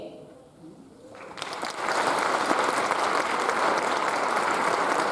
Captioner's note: audience applauds